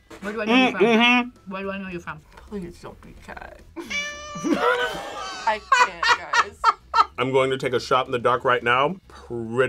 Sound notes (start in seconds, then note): 3.8 cat meows; 6.4 laughs